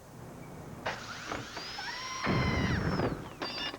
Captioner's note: blade whirring